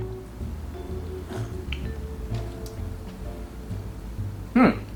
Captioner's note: sipping coffee